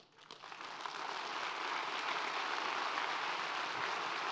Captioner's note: audience applauds